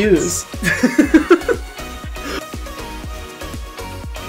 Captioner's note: laughs